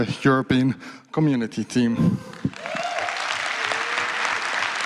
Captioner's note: applause